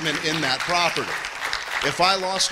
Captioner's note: applause